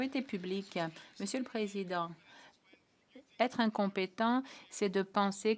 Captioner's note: applause